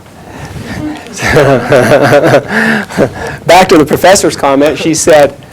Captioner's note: chuckles